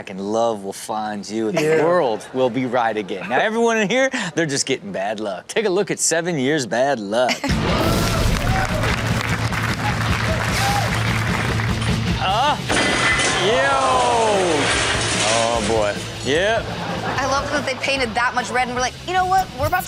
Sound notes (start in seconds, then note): 7.5 upbeat music; 7.6 audience cheers